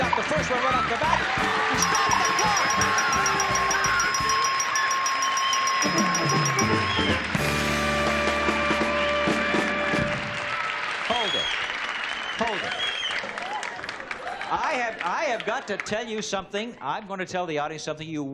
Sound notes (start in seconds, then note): 1.6 bell dinging; 5.2 audience cheering